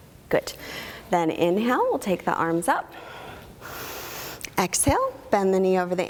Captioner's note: inhaling